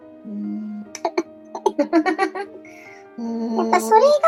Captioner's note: laughs